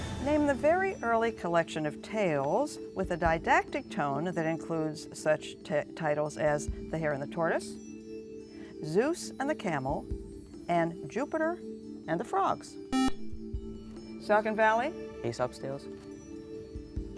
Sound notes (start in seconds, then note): 12.9 buzzer